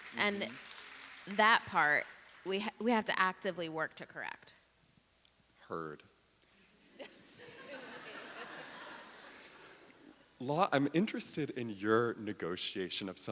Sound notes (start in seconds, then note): 7.0 audience laughing